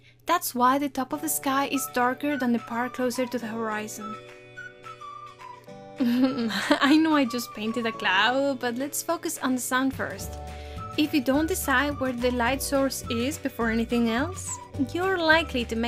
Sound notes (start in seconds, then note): 6.0 awkward laugh